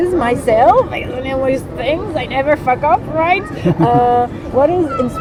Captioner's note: Gavroche laugh